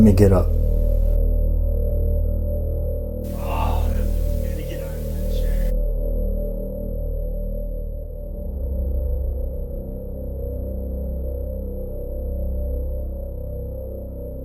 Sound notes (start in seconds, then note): 1.3 suspenseful music; 3.3 groans; 6.3 suspenseful music